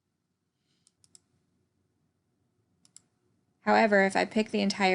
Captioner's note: computer mouse clicking